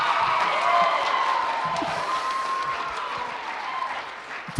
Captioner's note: applause; cheering